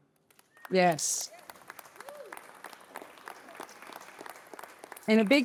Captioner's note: applause